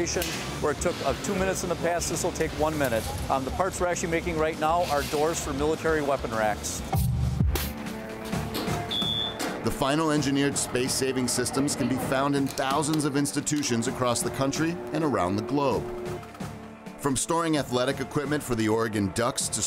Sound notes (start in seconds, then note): 7.0 beeping sound; 7.0 light music